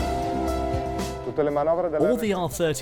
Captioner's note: man speaks in foreign language